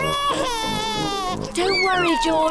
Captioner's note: cries